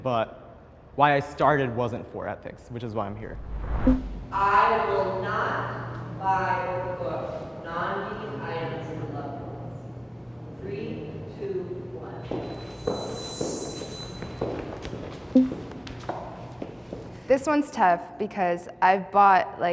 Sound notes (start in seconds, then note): 12.2 footsteps